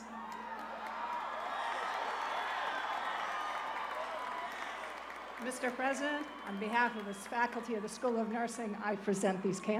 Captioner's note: cheers and applause